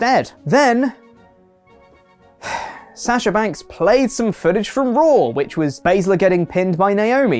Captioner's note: sigh